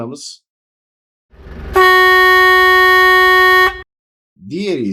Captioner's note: horn Sound